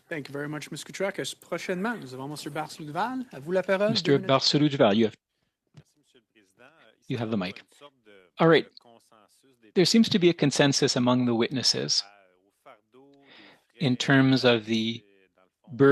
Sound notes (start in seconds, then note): 7.7 speaking French